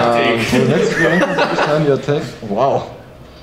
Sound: laughs

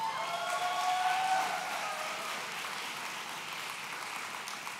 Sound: audience cheering

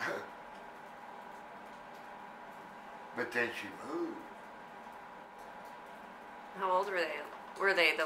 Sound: scoffs

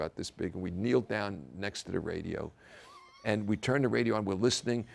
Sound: laugh

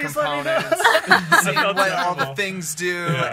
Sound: laughs

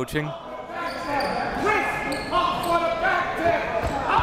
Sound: coach yelling

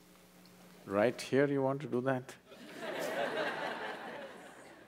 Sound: laughter

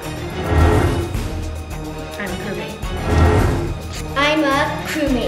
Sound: paper rustling

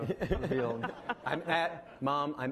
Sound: laughing

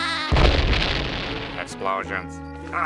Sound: laughing; explosion

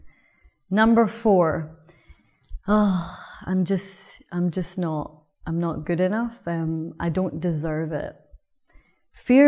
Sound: sigh

